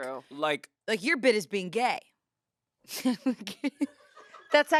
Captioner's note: laughs